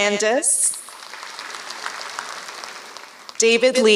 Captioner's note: applause